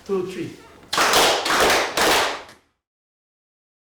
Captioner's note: claps